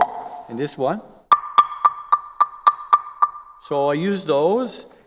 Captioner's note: taps